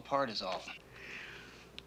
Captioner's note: inhales